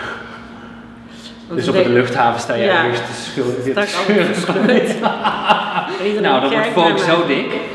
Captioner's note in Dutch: lachen